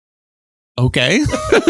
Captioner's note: laughs